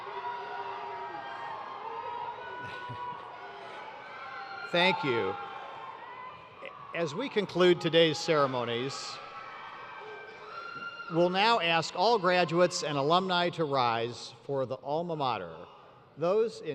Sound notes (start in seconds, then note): 4.6 cheers